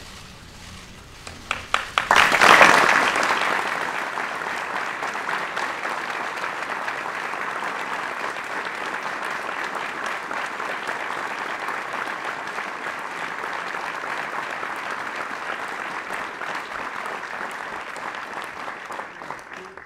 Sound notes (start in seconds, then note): 1.5 applause